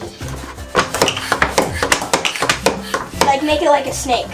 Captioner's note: pumping noise